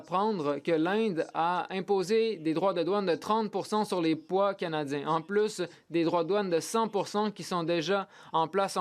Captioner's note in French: voix de l'interprète